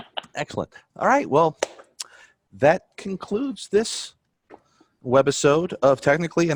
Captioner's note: chuckles